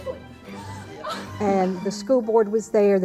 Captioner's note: voice-over